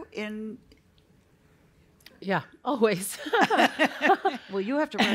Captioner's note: laughter